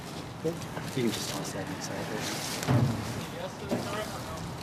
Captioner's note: indistinct chatter